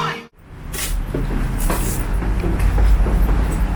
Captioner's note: sound of going down the stairs